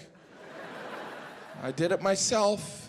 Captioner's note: audience laughing